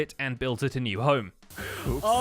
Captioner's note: sizzling noises